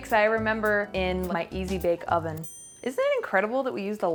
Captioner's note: bell tings